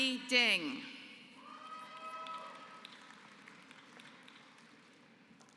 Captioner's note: applause